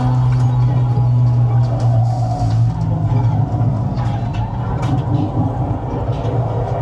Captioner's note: eerie tone plays; wind whooshes